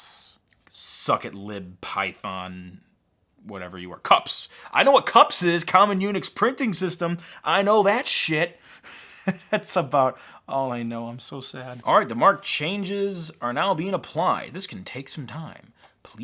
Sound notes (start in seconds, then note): 8.6 laughs